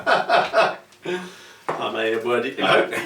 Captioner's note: laughs